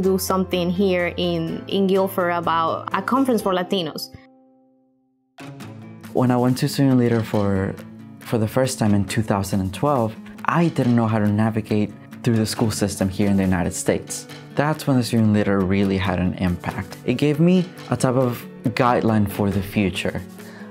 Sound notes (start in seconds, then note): 6.4 voiceover